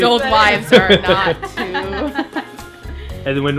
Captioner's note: camera man and laughing; laughs